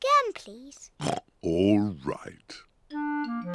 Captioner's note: oinks